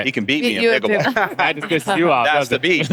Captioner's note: laughs